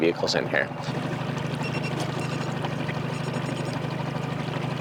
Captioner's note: scanner beeping